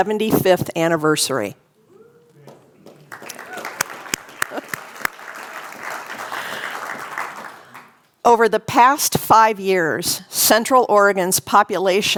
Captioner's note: applause